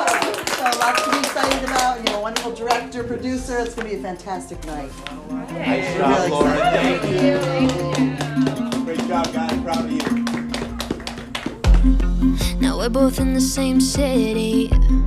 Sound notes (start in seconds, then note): 5.2 clapping